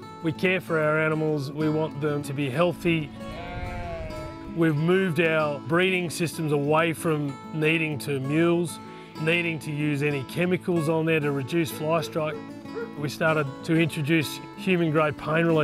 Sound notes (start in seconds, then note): 3.0 baaing